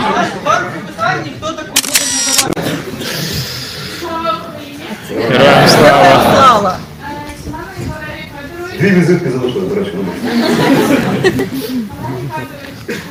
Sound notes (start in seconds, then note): 10.0 laughter in the hall